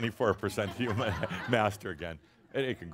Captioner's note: some chuckles